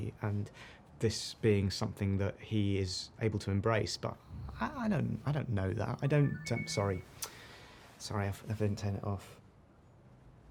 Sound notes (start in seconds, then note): 6.0 message alert